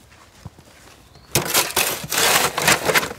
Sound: shovel noises

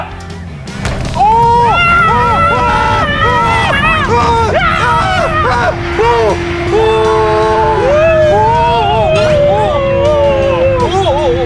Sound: screams

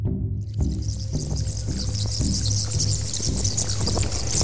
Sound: bats Screeching and Wings Flapping

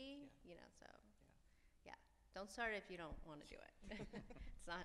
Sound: laughs

